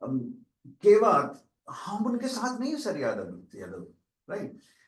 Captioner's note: non-english speech